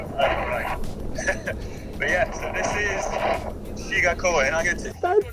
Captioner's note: laughs